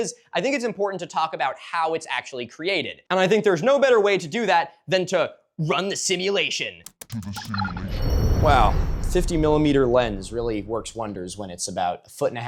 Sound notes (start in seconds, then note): 6.8 typing clicks; 6.8 deep robot voice; 6.9 whoosh